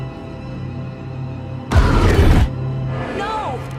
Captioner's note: growling